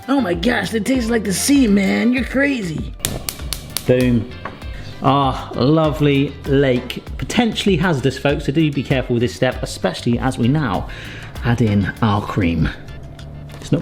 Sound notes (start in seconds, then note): 3.0 igniter clicking